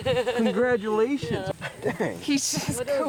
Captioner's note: chuckles